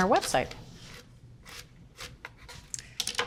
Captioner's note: knife crunching